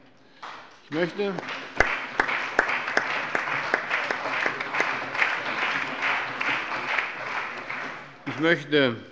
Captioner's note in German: Lebhafter Beifall